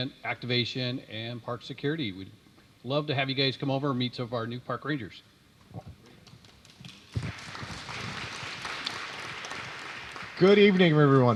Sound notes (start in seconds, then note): 6.2 applause